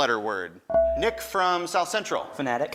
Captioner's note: buzzer dings